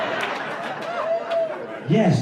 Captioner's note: cheers